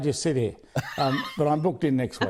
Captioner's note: laughter